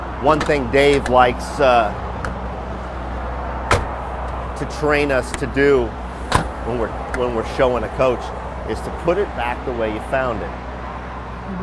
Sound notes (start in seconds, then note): 0.0 door slamming; 3.6 door slams